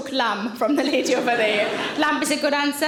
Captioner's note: audience laughing